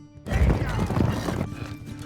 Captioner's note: hooves clopping; gasping